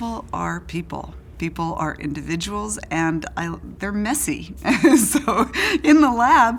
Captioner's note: laughs